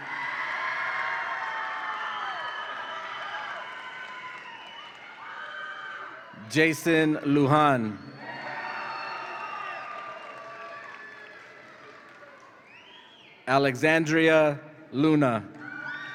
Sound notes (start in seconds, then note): 0.0 audience applauds and cheers; 8.2 audience applauds and cheers; 15.6 audience applauds and cheers